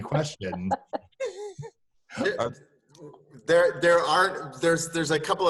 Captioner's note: laugh